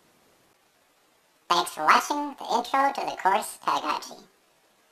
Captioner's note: computerized voice